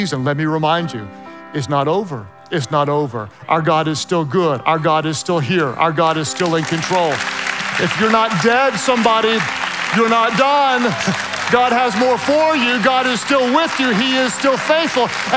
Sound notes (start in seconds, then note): 6.9 hands clapping loudly